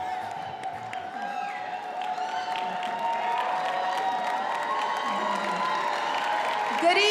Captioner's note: attendees applauding and cheering